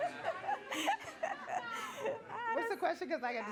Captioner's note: laughing